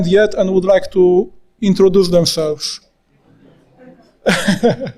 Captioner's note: laughing